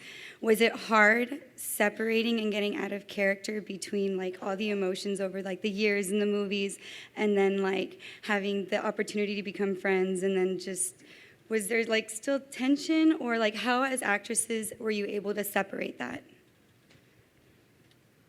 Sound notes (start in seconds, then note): none